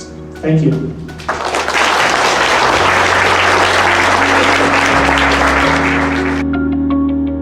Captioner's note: applause